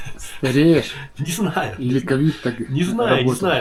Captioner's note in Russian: смех